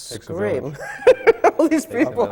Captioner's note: laughs